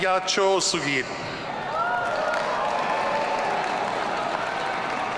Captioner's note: audience cheering